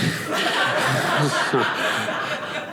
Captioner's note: audience laughing